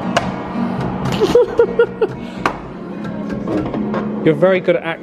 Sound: thumping drum pads confidently; laughs

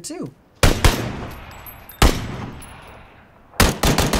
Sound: gun firing

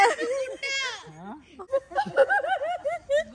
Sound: laughing

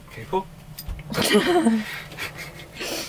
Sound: laughing

